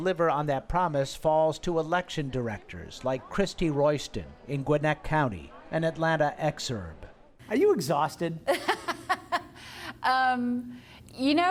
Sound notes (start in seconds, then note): 8.4 laughter